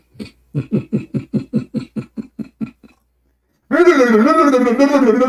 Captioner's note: Ketawa